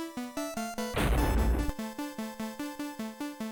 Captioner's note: thud